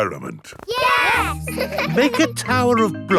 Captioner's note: laughing